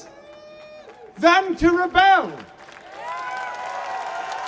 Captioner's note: applause